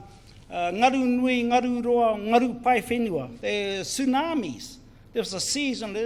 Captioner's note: foreign Language